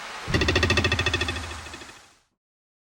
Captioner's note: boing!